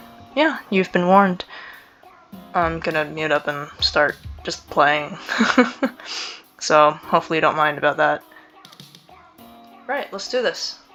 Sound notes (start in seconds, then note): 1.4 inhales again; 5.2 nervous laughter